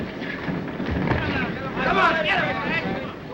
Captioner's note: men chatter